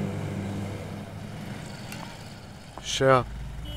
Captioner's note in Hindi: none